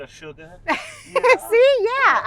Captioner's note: Kathy laughs